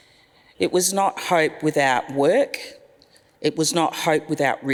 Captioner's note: none